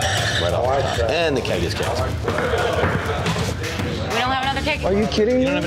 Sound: knuckles rapping

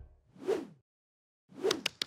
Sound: whooshing; clapping

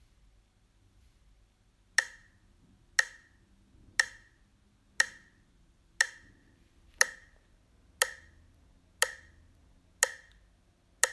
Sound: English voice over; sound of clock ticking

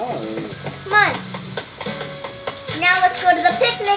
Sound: footsteps

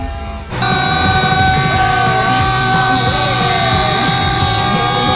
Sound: screaming

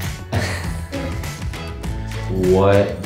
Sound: interviewer laughs

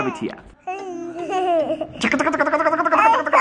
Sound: laughing

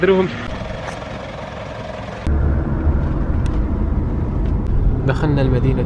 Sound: engine sound

